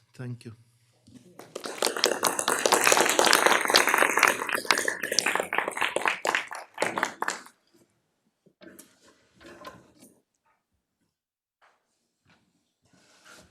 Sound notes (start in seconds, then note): 1.4 applause